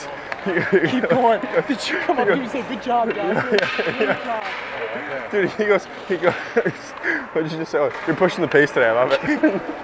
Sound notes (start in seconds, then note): 3.2 laughs